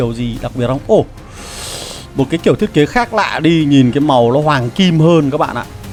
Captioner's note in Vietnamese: khịt mũi